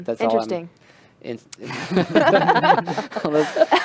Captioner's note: laughter